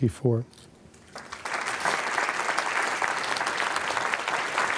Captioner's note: applause